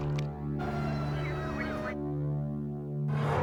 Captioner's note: siren wailing